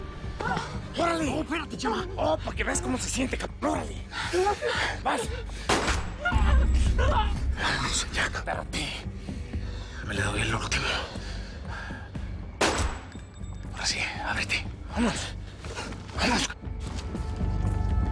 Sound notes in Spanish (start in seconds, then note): 5.6 Disparo; 12.6 Disparo